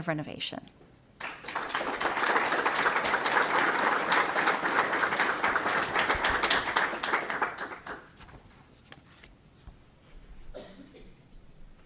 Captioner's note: applause